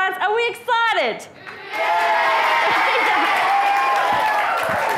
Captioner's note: audience say “Yeah” and cheers and applauds